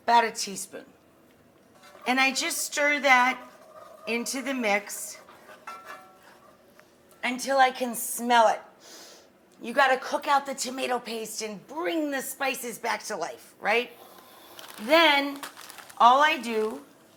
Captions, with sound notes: about a teaspoon. And I just stir that into the mix (metal scraping) until I can smell it. (inhales) You gotta cook out the tomato paste and bring the spices back to life, right? Then, all I do